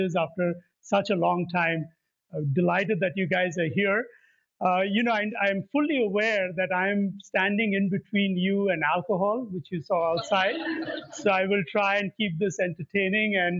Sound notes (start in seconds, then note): 10.1 laughter